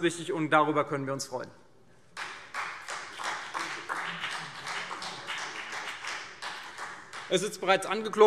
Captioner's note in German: Beifall CDU und BÜNDNIS 90/DIE GRÜNEN